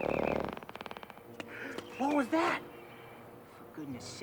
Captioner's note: tiger growling